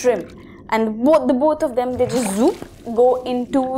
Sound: zoop

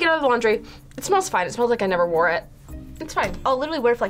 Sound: sniffs

